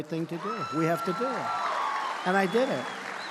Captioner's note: applause